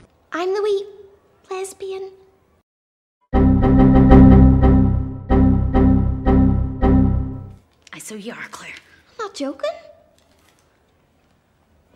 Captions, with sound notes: I'm the wee... lesbian. [error noises] Aye, so you are Clare. I'm not joking.